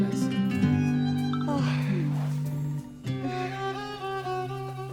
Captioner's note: phone Beeping